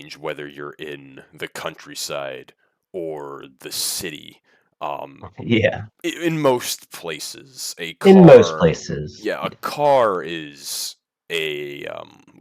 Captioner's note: laughs